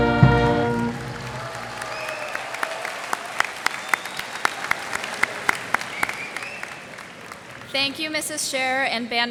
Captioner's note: cheers and applause